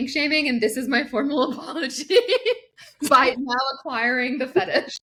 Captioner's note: laughs